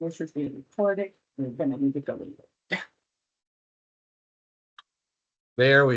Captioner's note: laughs